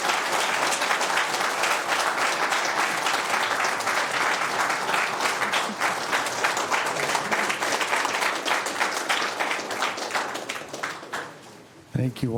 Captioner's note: applause